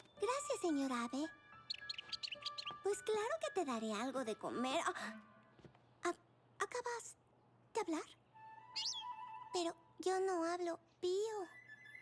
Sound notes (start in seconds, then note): 1.4 chirping; 8.4 chirp